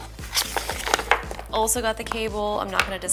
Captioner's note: cable rattle